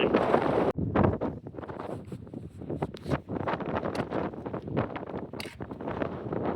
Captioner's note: wind